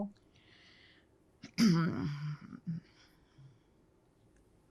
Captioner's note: clears throat